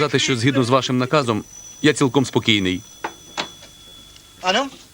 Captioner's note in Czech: zvoní telefon